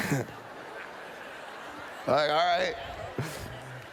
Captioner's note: laughter